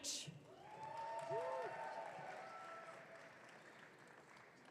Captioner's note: audience cheering